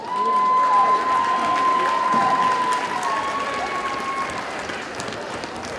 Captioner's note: audience cheers and applauds